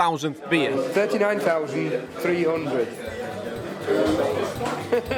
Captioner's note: background chatter; laughs